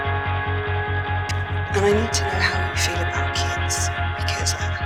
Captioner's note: voiceover